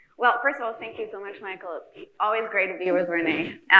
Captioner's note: none